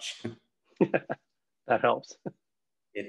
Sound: laughing

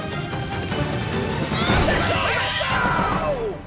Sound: cheering

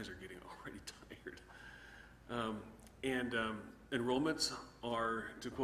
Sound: chuckles

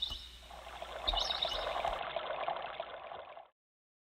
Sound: birds chirping; water rushing

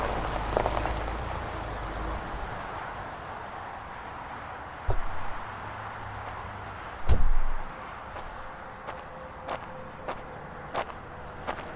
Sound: car door closes, then walking noises

